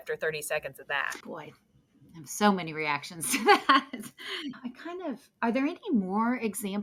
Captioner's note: laughs